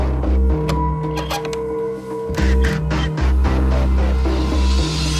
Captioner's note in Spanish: Sonido al abrir la puerta